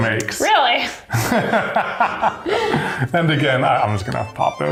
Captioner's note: laughs